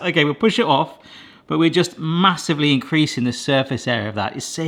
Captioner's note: none